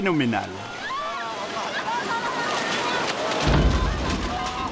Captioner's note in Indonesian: suara teriakan